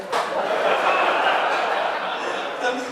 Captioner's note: audience laughing